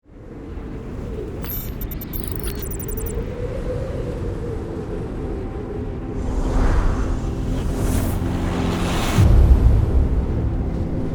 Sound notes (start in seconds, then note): 5.8 slow and intense music; 5.9 wind blowing